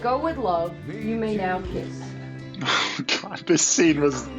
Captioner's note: chuckles